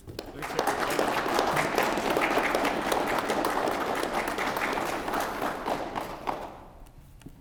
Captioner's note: applause